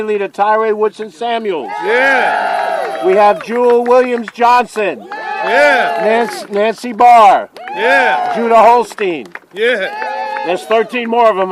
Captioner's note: cheering